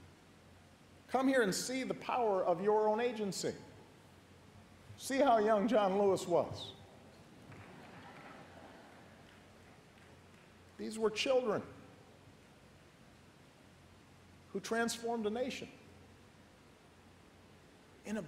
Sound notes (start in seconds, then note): 7.5 laughter